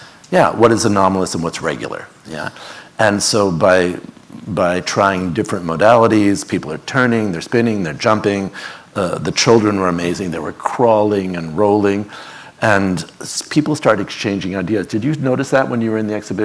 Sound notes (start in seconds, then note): none